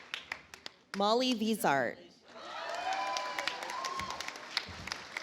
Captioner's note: audience applauds